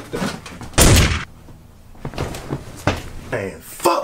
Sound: gun firing

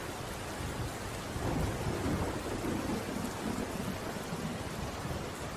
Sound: more thunder rumbling in the distance

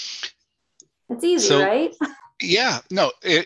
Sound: laughs

